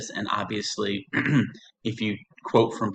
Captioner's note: clearing Throat